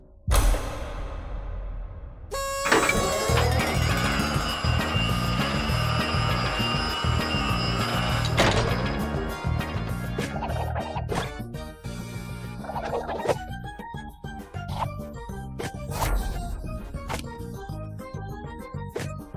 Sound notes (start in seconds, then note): 0.3 clang!; 2.2 whistle toots; 3.2 celebratory music plays